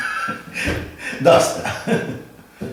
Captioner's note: laughter